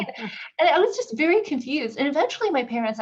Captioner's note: laugh